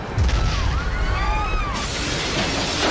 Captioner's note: screaming